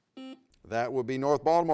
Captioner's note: buzzer beeps